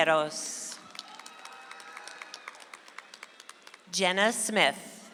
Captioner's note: audience applauds